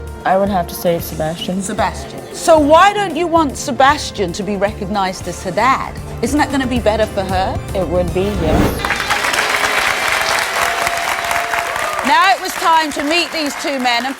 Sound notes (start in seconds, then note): 8.8 audience applauding